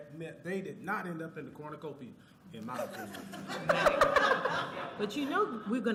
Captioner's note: laughter